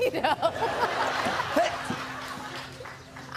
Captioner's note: laughter